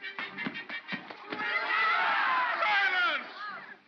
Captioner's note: crowd clamors